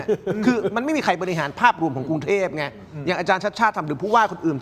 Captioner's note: laughter